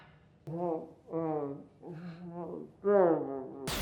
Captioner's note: grumbling